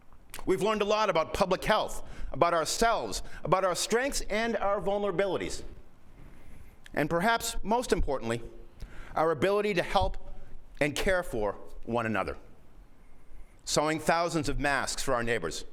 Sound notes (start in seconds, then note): none